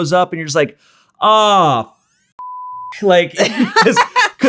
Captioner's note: beep sound